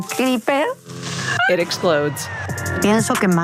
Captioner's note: screams